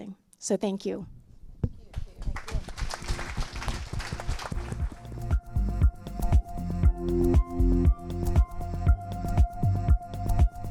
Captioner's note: applause